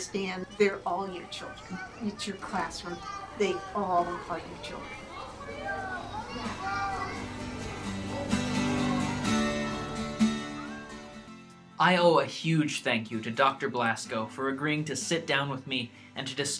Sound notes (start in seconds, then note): 0.7 sound of children playing; 5.3 sound of children playing continues. Guitar strumming